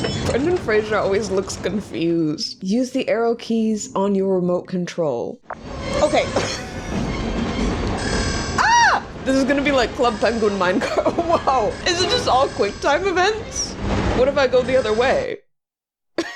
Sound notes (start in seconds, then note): 0.0 metal squeaking; 6.2 laughs; 10.6 laughs; 15.4 silence